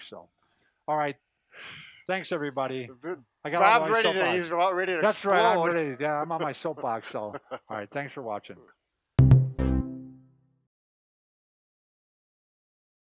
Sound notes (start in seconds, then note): 3.1 stutters; 6.3 laughing; 9.2 electronic drums beat